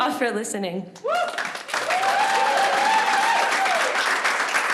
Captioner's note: applause